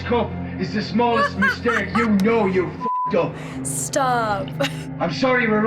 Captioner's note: laughs